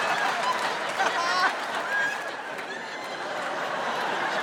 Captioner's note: laughter